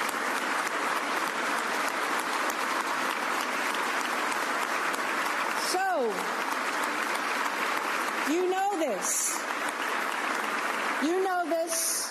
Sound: applause

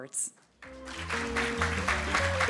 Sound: audience applauding; upbeat jazz music

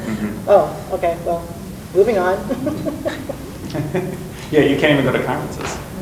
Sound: laughs

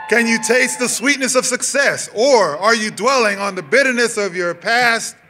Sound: cheers and applause

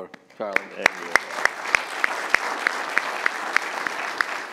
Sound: applause

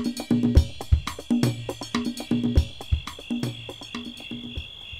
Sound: crickets chirping

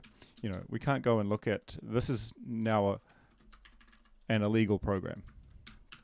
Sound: typing

